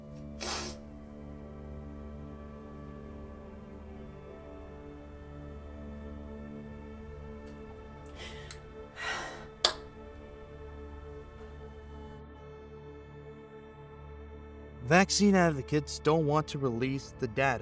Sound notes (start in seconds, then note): 0.1 sad music; 4.8 kissing